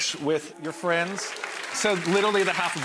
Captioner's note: crowd claps